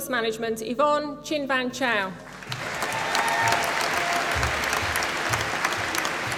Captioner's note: applause